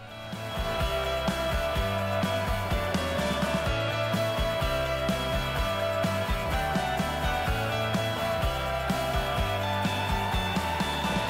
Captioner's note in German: Beifall